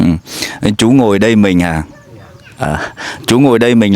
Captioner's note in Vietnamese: khịt mũi